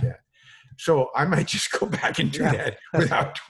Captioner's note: laughs